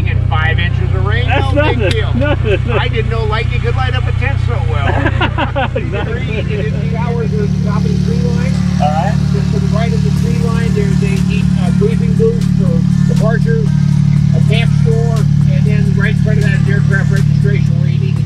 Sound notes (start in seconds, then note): 5.1 laughs